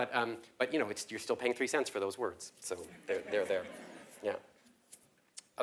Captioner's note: laugh